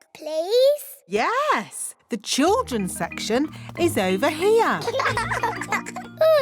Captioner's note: laughter